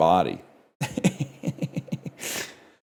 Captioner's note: laughs